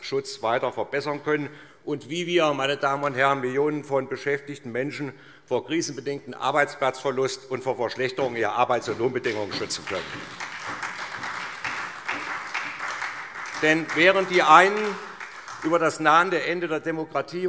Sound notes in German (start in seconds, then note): 9.2 Beifall SPD